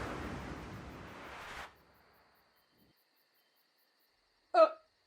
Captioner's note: wind stops